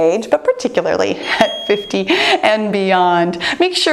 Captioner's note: chuckles; bell dings